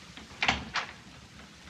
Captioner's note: door opens